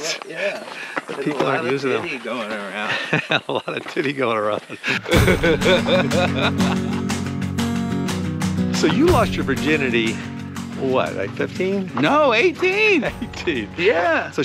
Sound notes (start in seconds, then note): 2.6 chuckles; 5.3 Ron laughing; 6.9 upbeat music